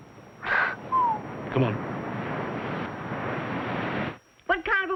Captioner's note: whistles